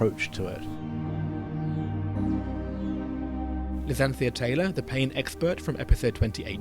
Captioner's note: voiceover